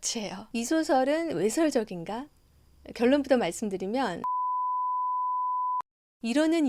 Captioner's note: beep